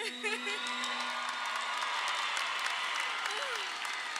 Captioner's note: crowd applauds